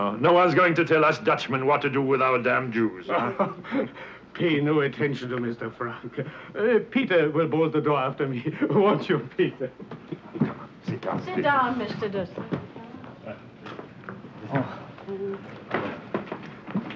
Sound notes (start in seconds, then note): 3.0 chuckles; 12.4 people chattering